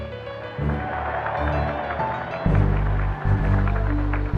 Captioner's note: crowd cheers